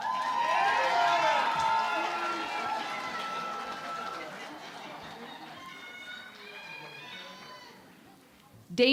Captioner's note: cheering and Applause